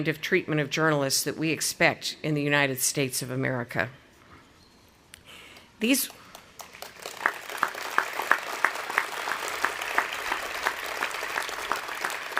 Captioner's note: audience applauding